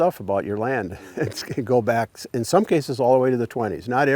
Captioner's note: chuckles